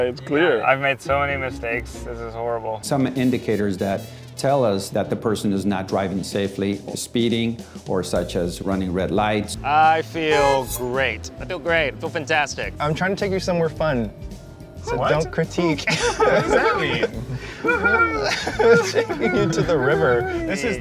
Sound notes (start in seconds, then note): 15.8 laughing; 18.0 laughing and whooping